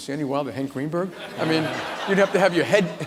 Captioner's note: laughter